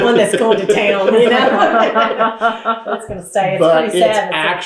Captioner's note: laughter